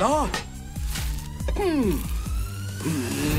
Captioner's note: Sumorai grunts; epic music swells